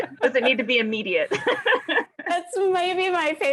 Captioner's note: laughs